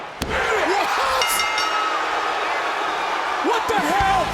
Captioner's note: bell chimes